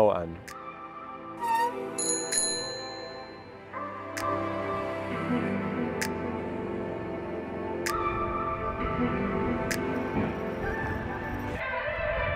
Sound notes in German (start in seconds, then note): 2.0 Gong